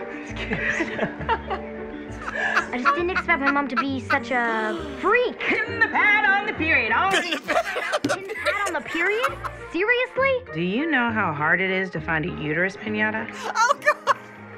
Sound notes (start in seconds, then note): 2.1 laughing; 7.1 cackling